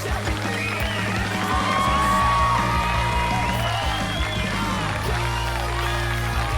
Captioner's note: audience applauding; audience cheering